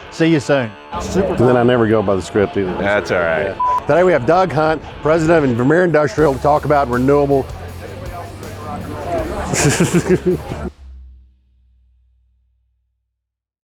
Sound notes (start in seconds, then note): 3.6 beep; 9.3 laughing